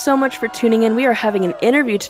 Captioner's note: cheering